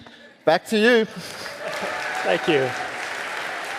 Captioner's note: audience applauding